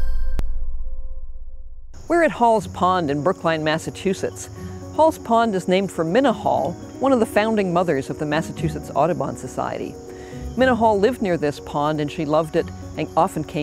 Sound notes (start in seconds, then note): 1.3 insects chirping